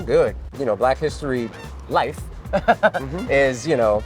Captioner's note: chuckles